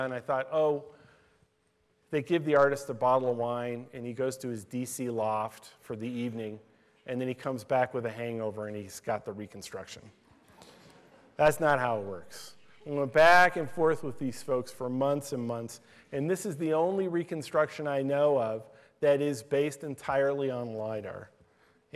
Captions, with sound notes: I thought, oh they give the artists a bottle of wine and he goes to his D.C. loft for the evening and then he comes back with a hangover and he's got the reconstruction. (laughter) That's not how it works. We went back and forth with these folks for months and months. And this is the only reconstruction I know of that is based entirely on LIDAR.